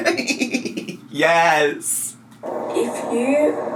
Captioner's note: laughs